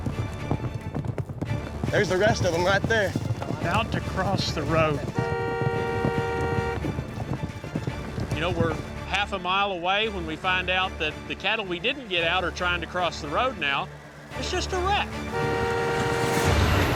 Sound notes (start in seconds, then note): 0.1 hoof beats; 4.3 car horn honks; 6.6 hoof beats; 14.4 car horns honking